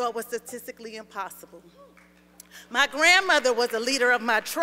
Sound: applause

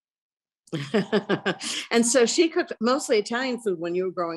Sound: laughs

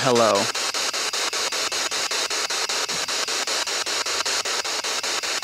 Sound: loud, choppy static

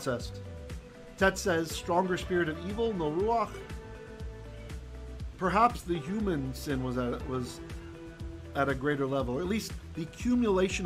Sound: hebrew

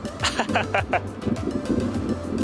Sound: laughs

